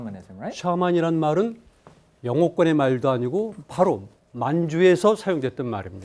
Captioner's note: speaking in Korean